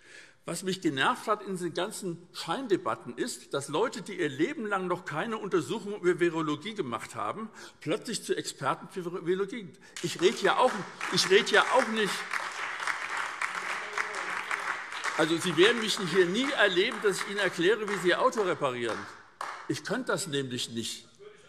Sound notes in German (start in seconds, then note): 9.9 Beifall SPD, BÜNDNIS 90/DIE GRÜNEN und DIE LINKE